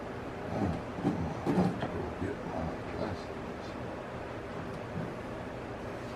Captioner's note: talking softly